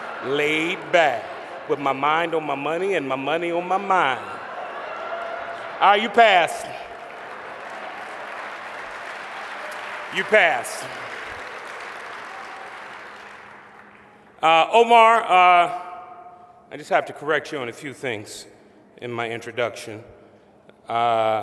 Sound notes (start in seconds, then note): 9.8 applause